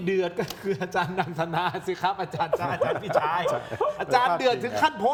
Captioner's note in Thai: เสียงหัวเราะ